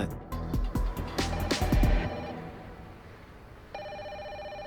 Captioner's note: phone ringing